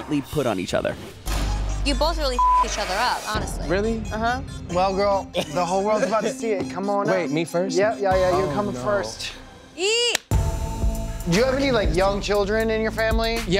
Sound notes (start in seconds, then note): 2.3 beep